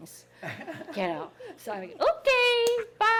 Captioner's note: people laughing